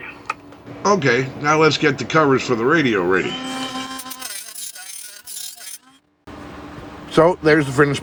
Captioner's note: dremel Buzzing